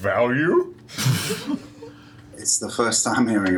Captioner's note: laughter